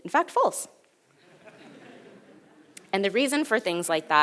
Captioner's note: audience laughs